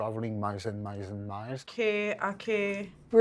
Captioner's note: speaking Lakota